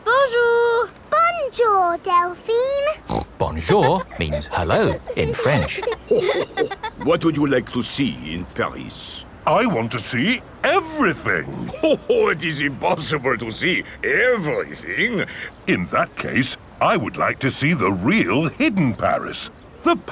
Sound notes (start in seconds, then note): 2.9 snorts; 6.3 chuckles